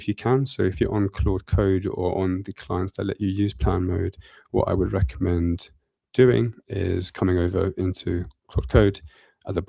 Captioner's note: none